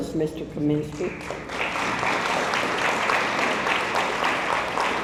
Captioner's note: audience applauds